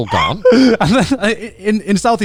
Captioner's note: laughing